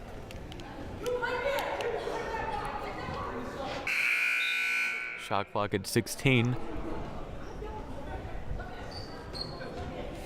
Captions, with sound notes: (buzzer blaring) Shot clock at 16.